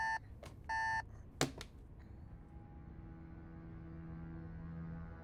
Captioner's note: alarm clock button thuds; tense mysterious music